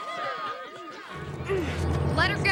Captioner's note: crowd cheering